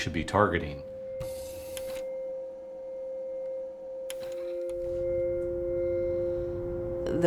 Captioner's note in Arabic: موسيقى محيطة تأملية; صوت جهاز العرض